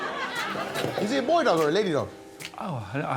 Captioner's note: audience laughing